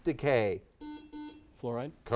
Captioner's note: buzzer